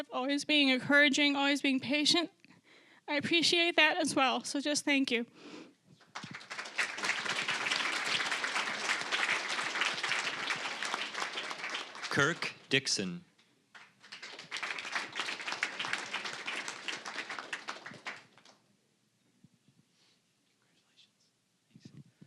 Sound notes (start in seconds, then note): 6.0 applause